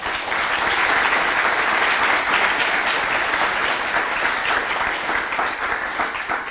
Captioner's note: applause